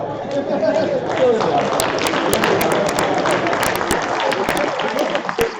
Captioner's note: applause